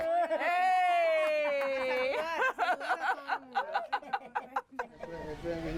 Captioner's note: laughs